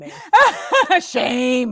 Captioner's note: laughing